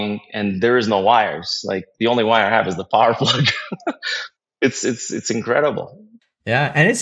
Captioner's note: laugh